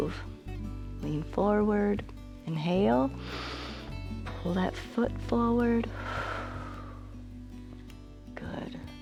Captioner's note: exhales